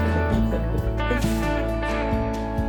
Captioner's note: laughing